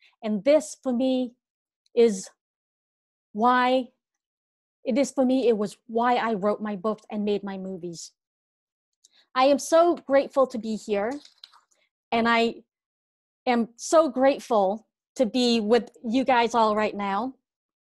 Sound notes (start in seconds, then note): none